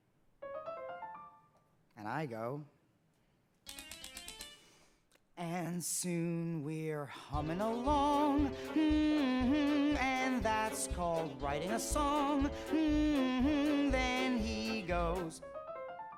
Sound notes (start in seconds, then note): 0.4 light piano riff plays; 3.7 typewriter clicking musically; 5.3 singing; 7.5 upbeat music playing; 15.1 light piano riff plays